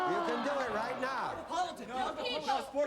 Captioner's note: all chattering